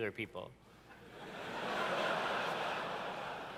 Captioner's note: laughter